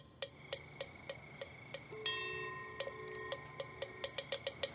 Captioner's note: bells ring quietly